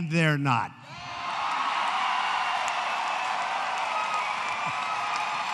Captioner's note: applause